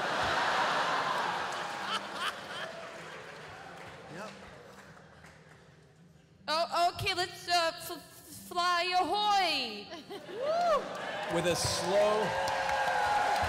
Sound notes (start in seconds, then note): 0.0 laughter; 6.4 stammers